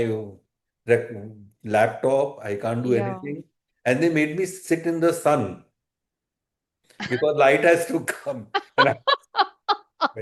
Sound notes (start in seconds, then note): 8.6 laughter